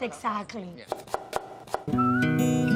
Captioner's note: knife chopping